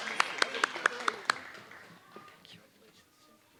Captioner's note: applause